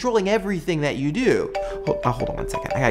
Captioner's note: cell phone rings